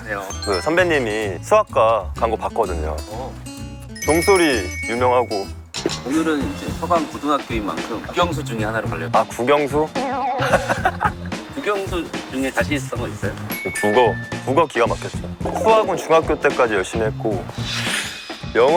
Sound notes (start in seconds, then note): 3.9 famous bell sound